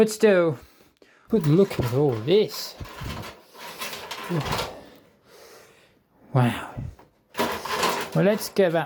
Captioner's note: assorted cables noise